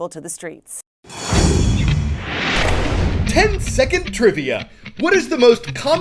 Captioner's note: voice-over